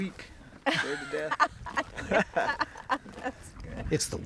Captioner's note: everyone chuckling